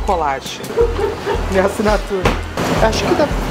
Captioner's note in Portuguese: risadas